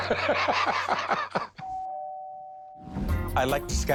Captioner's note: chuckles; doorbell rings